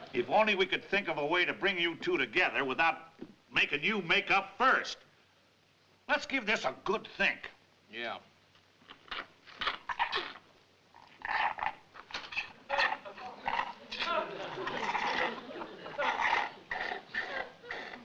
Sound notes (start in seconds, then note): 8.8 slurping; 14.0 audience laughing